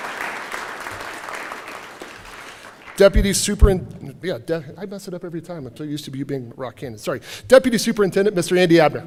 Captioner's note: applause